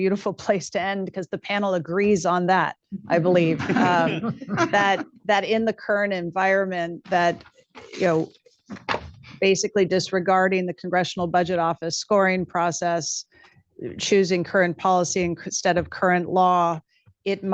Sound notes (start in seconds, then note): 3.4 laughter